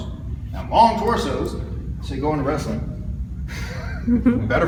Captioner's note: chuckles